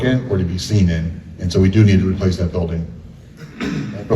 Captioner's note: coughs